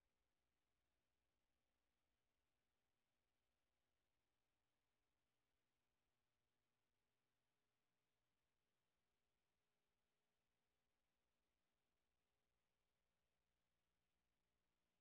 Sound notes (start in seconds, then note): none